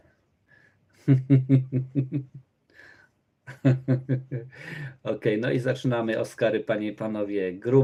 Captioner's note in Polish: śmiech